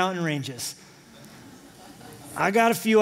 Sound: laughter

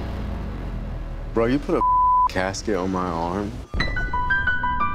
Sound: beep

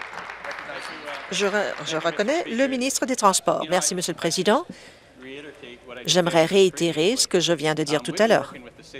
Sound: applause

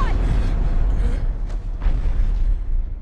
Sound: explosion

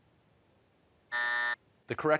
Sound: buzzer

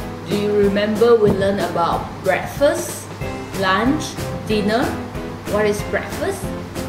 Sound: chinese words

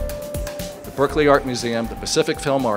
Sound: voiceover

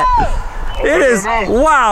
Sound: yelling

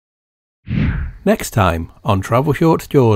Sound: air whooshing

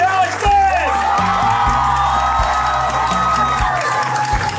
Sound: crowd cheering

